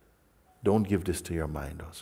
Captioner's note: none